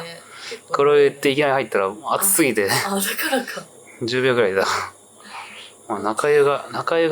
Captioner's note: laughs